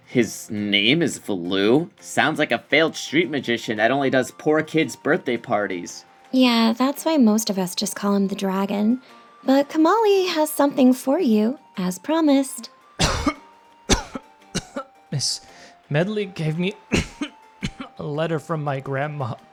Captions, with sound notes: His name is Valoo? Sounds like a failed street magician that only does poor kids' birthday parties. Yeah, that's why most of us just call him the dragon, but Komali has something for you, as promised. (coughing) Miss Medli gave me a letter from my grandma.